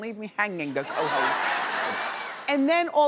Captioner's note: audience screaming